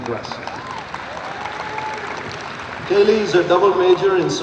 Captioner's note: audience applauds and cheers